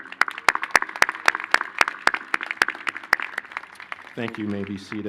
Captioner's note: applause